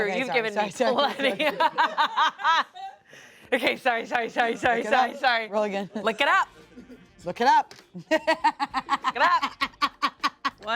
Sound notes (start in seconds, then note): 1.0 everyone laughs; 8.0 laughs